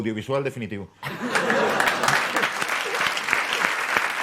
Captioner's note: laughter and applause